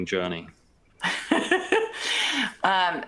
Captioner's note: laughter